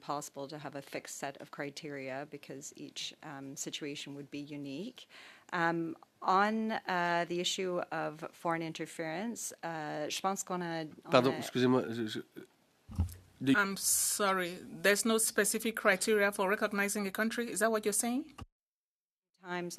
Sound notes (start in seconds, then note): 17.1 speaking French